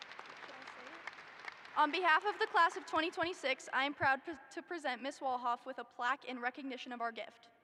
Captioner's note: applause